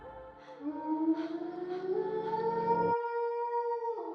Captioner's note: howls